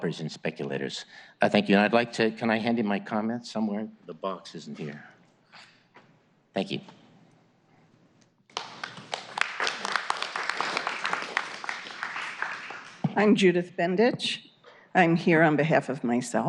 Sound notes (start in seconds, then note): 5.9 applause